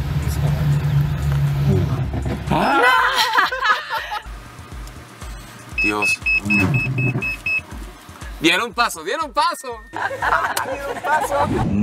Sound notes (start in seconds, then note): 1.8 car breaking; 2.5 nervous screaming and laughter; 5.7 alarm beeping; 10.0 nervous screaming and laughter